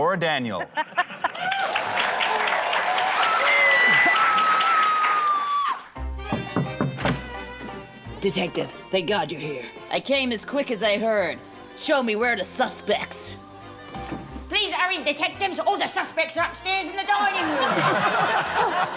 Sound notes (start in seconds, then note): 1.2 cheering, applause; 3.2 woman screams; 6.0 curious music; 17.4 laughter